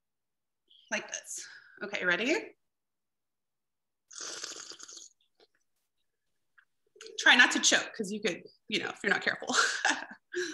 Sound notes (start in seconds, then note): 4.1 drinks wine and gurgles; 9.3 laughs